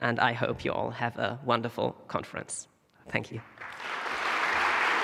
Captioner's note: applause